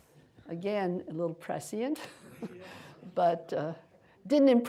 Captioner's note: chuckles